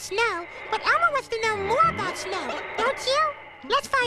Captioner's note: wind blows